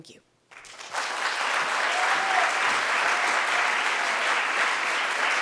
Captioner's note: audience cheering and applauding